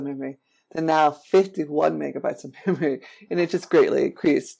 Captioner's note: chuckles